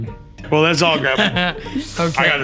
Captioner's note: laughs